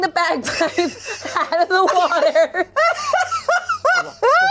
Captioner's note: laughs